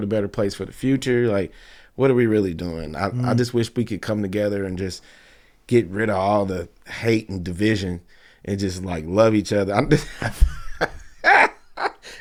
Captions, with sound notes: better place for the future? Like, what are we really doing? I just wish we could come together and just get rid of all the hate and division and just like love each other. (laughing)